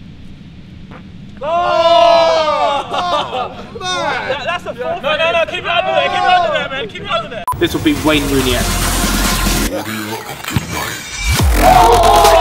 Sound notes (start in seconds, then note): 0.8 farting; 1.4 disgusted screaming; 9.2 electronic music